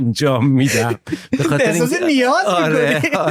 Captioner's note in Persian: خنده